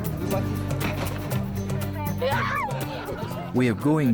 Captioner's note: child squeals